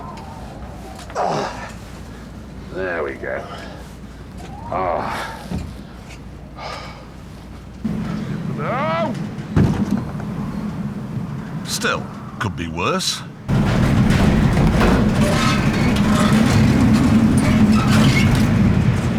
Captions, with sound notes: There we go. Ah! (JEREMY YELLS) (THUD) Still, could be worse. (HOWLING WIND) (RATTLING AND BANGING)